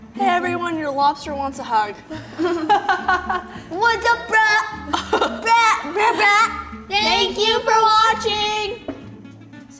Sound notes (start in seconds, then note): 2.1 laughter